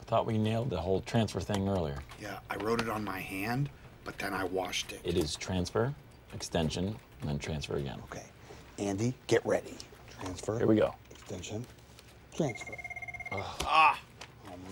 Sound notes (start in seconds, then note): 12.4 telephone rings; 13.3 all groan